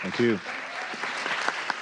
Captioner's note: applause